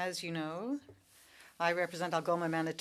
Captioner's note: speaking french